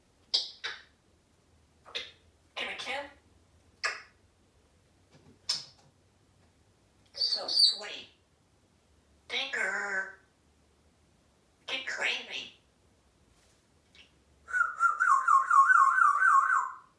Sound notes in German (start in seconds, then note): 0.3 smooch, smooch, smooch; 3.6 smooch; 5.2 smooch; 14.4 whistling